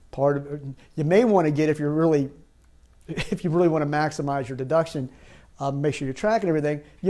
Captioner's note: chuckles